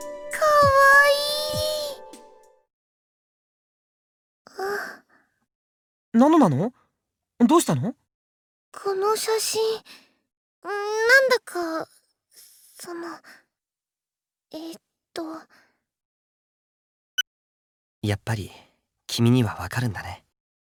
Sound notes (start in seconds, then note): 16.9 silence